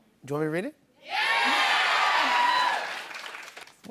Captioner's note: audience shouts "Yeah"